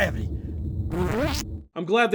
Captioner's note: fart